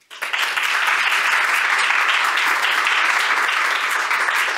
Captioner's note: audience applaud